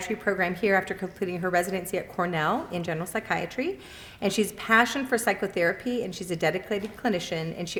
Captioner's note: none